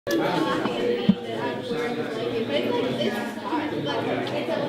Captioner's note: crowd chatter